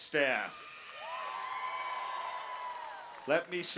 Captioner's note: cheering